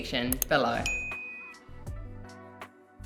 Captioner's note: bell rings; soft music